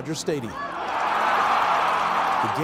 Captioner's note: cheering